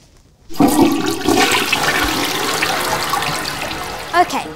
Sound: toilet flushing

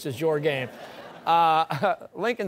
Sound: laughter

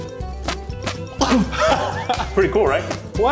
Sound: fart sounds

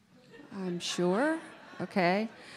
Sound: audience laughing

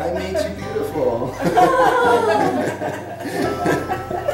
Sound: laughing

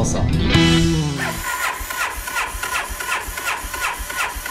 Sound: engine choking

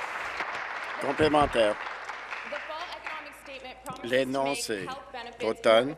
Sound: applause

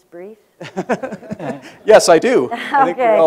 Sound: laughter

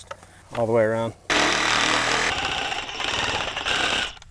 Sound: saw whirring

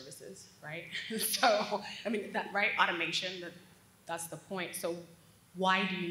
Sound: laugh

